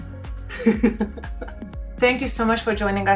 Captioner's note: laughing